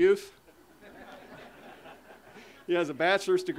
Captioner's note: audience laughter